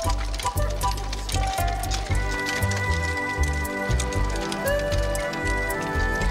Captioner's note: applause